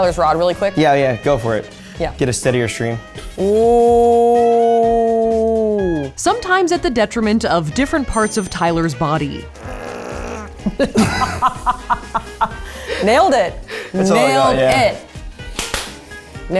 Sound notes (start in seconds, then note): 9.6 groans; 10.6 laughs